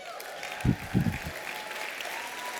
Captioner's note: applause